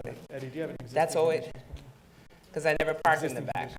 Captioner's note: applicants chatting quietly